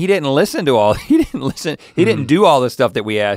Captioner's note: chuckles